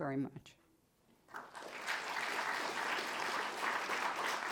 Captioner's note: applause